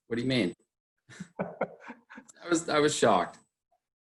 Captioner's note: laughing